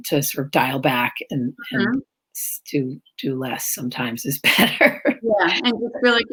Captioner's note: laughs